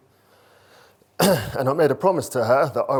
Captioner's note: clears throat